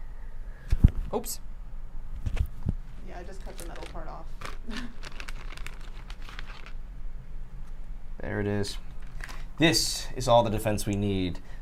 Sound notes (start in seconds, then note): 3.2 plastic crinkling